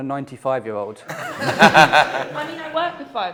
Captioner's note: laughter